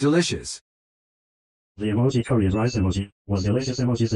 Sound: voiceover speaking

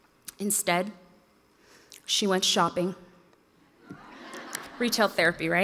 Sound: audience laughs

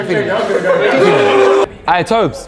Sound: Simon grunts

